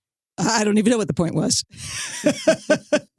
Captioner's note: laughs